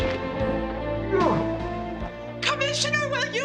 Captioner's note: romantic rock music; grunts